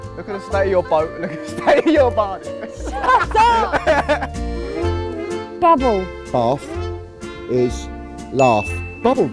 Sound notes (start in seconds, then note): 2.5 laughing